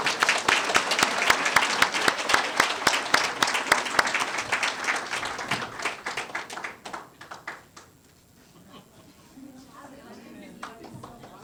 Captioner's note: applause